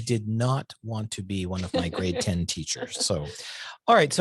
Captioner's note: laughs